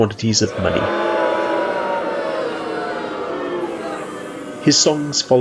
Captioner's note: booing